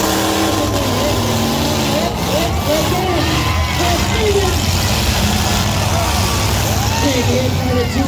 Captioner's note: car hits; crowd yells OH!; engine revs; crowd cheers